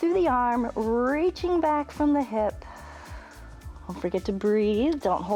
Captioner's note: exhales